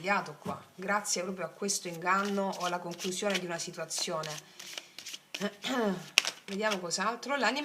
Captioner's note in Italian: schiarire la voce